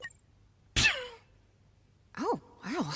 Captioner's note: coughs